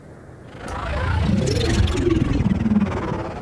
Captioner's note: fly-by sound